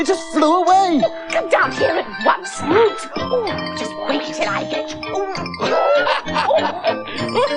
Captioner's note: Toby Laughs